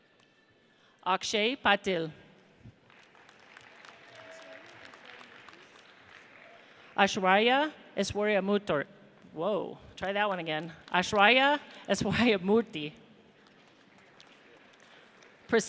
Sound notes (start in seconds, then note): 2.8 audience applauds; 13.3 audience applauds